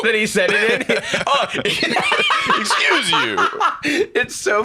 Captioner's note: laughs